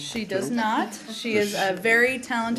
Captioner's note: laughter